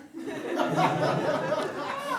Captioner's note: audience laughs